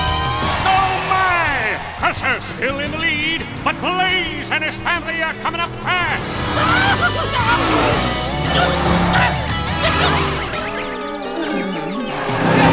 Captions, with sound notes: Oh my, Crusher's still in the lead, but Blaze and his family are coming up fast! [yelling]